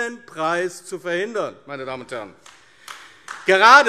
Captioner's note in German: Beifall AfD